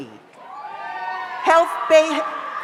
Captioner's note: audience cheers; audience applauds